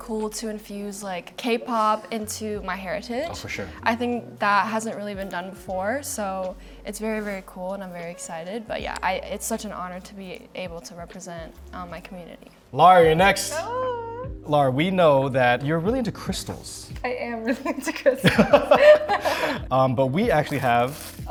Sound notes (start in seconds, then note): 17.4 laughs; 17.5 laughing; 18.2 laughs